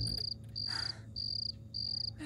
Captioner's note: Sighs